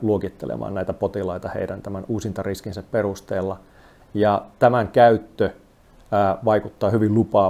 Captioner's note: speaking in foreign language